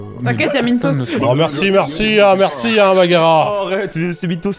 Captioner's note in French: sarcastique